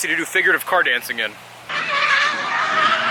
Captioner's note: tired Squeals while drifting